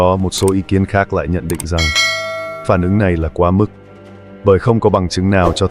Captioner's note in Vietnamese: chuông